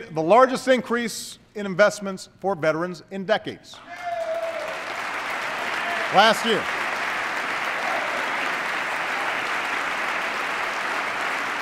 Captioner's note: applause